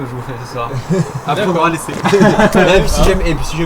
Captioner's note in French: rires